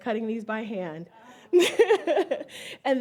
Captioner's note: laughs